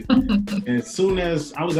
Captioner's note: laughs